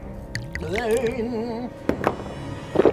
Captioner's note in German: Ekelgeräusch